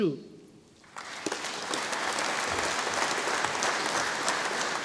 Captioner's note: audience applauding